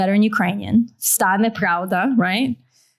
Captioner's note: non-english